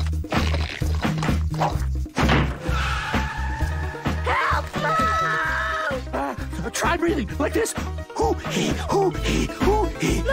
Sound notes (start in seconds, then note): 2.2 door slams; 2.6 tires screech